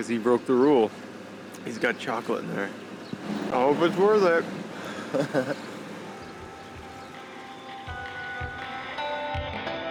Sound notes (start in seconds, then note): 4.8 chuckling